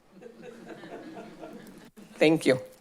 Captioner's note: laughing